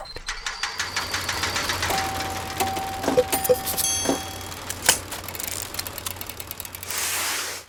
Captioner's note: sounds of lever being pulled and machine working